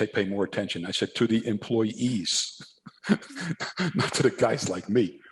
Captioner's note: laughs